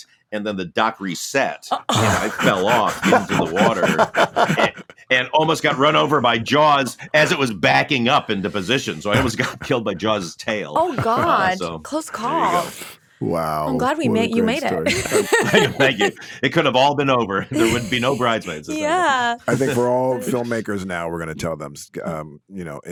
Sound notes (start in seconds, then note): 13.2 laughs